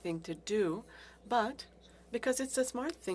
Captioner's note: speaking french